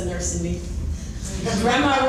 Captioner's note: laughing